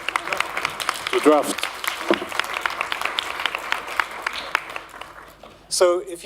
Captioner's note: applause